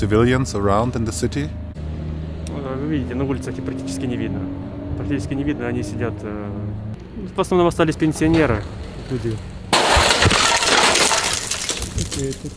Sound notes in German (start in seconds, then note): 9.7 Knall, Klirren